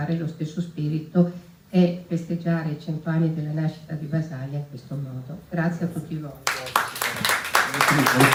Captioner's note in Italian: Applauso